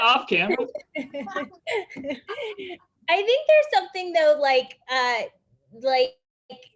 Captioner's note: laughs